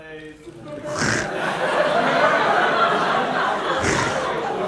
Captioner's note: audience laughter